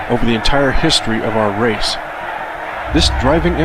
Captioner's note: armies shout